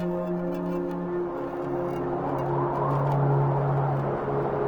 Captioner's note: gentle music continues; wind whistling